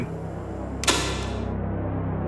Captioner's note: recorder cut-off